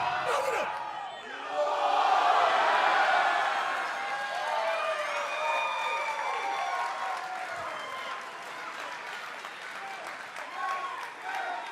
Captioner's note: crowd cheering